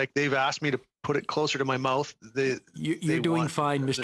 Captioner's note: speaking French